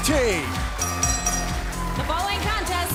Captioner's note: bell ringing